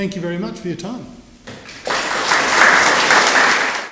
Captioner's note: applause